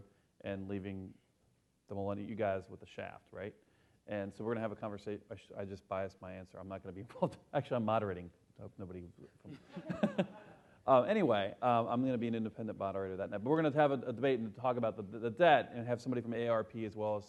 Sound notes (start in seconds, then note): 9.4 laughs